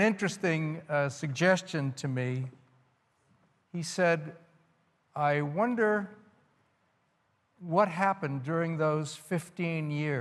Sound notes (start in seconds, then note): none